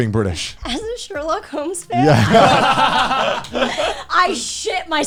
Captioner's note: all laughing